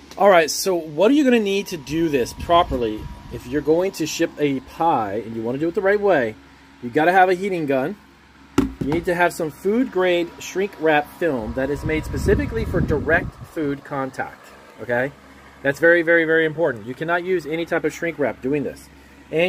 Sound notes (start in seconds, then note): 8.6 gun tapping table